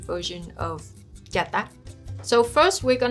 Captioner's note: speaking in foreign language